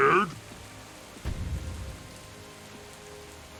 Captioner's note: thud